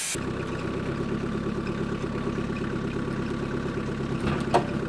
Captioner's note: engine revving